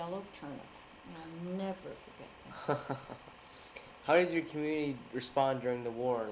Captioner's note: chuckles